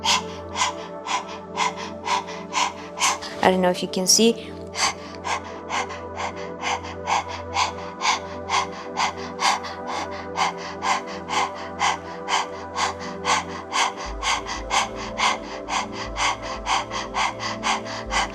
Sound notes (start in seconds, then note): 0.0 panting; 4.8 panting